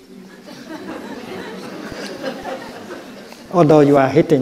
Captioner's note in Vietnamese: Đại chúng cười